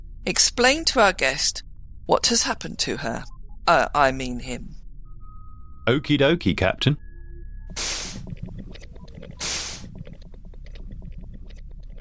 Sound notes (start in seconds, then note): 9.1 doors swish